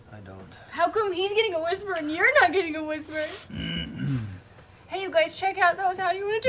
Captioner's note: sobbing